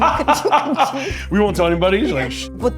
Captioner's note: laughs